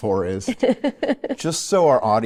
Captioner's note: laughs